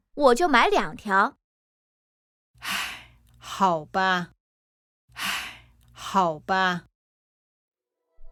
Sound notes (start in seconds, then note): 2.6 sigh